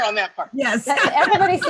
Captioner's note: laughs